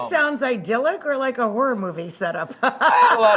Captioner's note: laughing